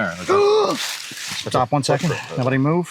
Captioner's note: gasps